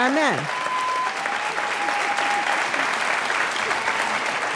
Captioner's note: applause